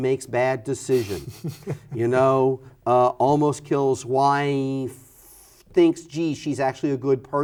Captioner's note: laughs